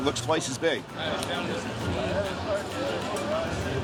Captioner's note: indistinct chatter